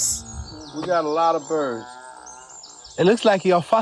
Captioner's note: birds chirping